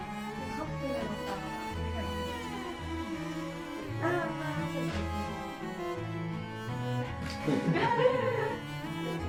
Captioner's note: tears